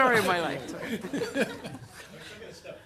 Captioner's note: laughter